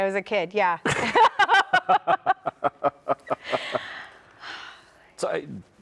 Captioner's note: laugh